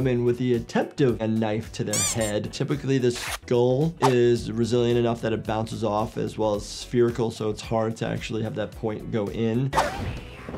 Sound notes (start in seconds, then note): none